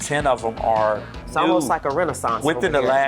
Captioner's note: chuckles